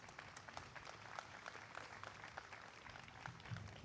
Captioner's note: applause